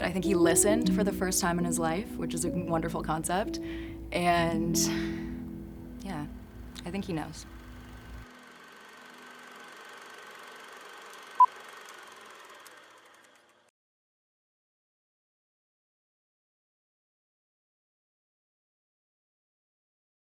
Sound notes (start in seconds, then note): 7.4 film projector whirring; 11.4 beep